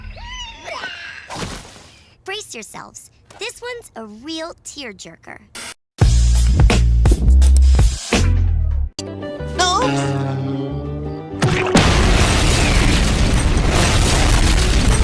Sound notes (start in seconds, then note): 5.7 pop music playing; 11.4 explosion